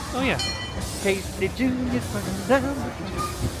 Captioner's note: bell clangs; singing